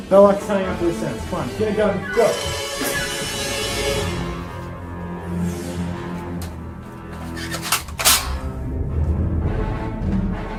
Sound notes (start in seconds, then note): 7.8 cocking gun